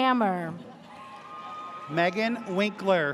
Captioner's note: audience cheers